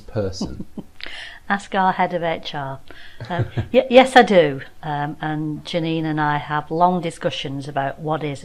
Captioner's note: laughing